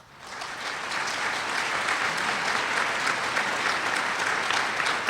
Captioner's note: applause